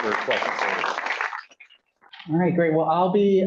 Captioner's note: applause